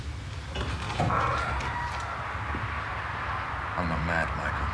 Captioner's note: door creaking